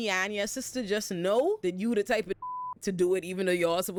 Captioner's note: beep